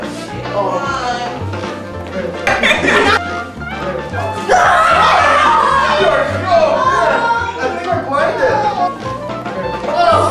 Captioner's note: screams